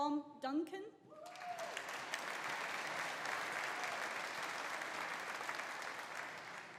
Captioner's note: audience cheering; audience applauding